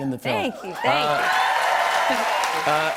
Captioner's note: cheers and applause